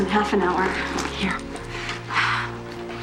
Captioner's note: sighs